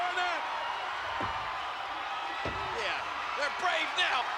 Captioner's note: spectators cheering